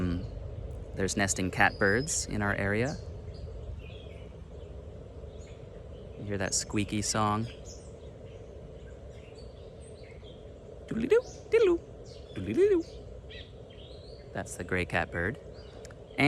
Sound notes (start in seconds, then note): 8.9 bird imitation